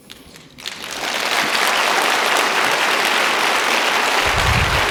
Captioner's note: audience applauding